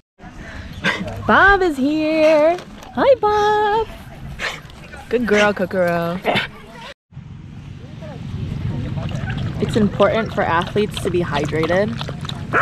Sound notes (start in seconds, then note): 3.8 dog panting; 6.2 dog gagging; 8.8 water slurping